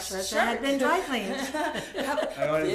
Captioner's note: laughter